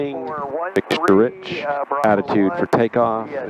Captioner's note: radio static